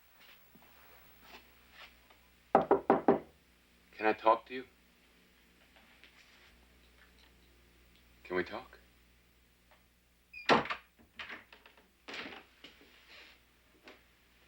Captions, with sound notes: (wood tapping) - Can I talk to you? Can we talk? (door bangs)